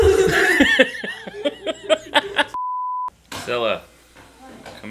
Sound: laughing

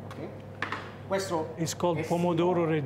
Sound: speaking Italian

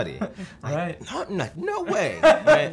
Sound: laughter

